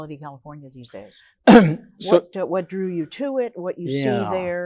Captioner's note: coughs